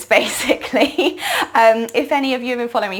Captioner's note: laughing